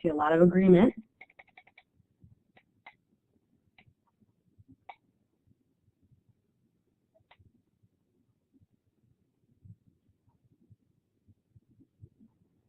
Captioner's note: silence